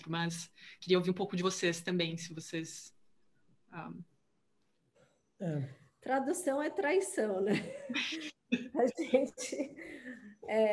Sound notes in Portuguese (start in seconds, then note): 7.4 risos